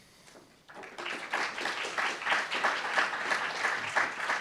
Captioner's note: applauds